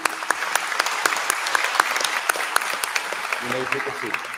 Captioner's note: applause